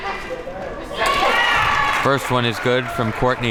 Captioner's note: audience cheers